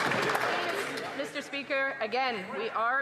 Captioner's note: some Applause